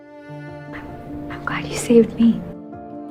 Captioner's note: voiceover